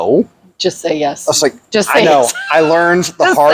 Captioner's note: laughs